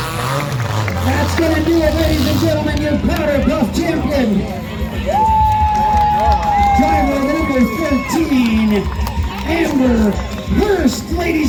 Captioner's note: crowd cheers